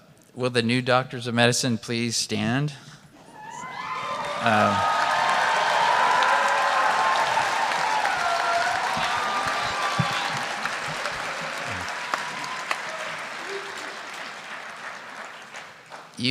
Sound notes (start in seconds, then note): 3.3 cheering; 3.7 applause